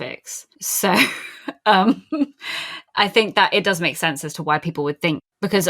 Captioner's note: laughs